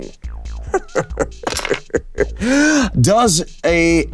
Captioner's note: Damien chuckling; dice rolling